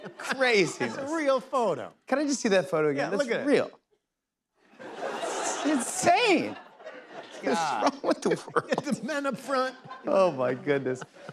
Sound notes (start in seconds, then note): 4.7 laughter